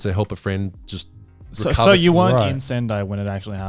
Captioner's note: laughing